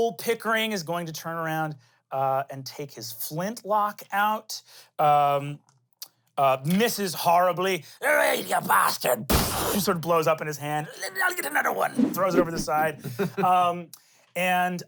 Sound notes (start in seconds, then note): 9.5 whooshes; 13.7 chuckles